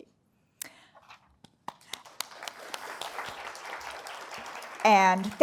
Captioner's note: applause